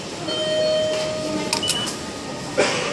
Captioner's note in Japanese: 自動改札機通過音